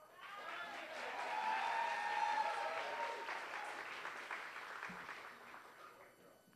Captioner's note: applause